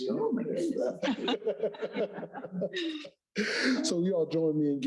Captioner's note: both laughing